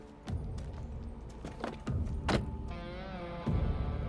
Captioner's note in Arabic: موسيقى متوترة; يغلق الباب